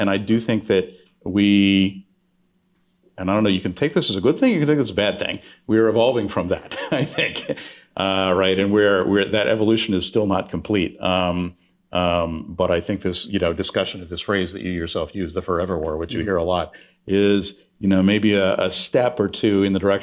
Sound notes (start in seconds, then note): 6.5 chuckling